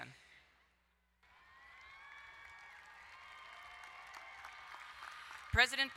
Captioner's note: crowd cheering and applauding